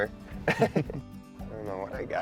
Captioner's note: laugh